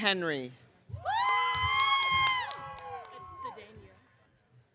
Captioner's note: audience cheering